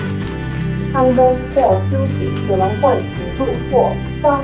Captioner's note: announcement in Chinese, English, and Japanese